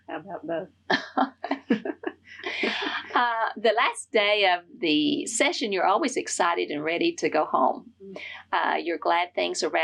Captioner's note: laughs